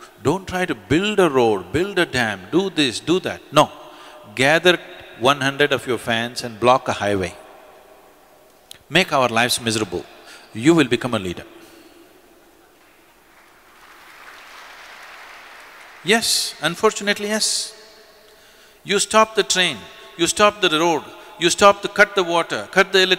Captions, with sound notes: don’t try to build a road, build a dam, do this, do that, no; gather one hundred of your fans and block a highway, make our lives miserable, you will become a leader. (Applause) Yes, unfortunately yes. You stop the train, you stop the road…, cut the water; cut the electricity;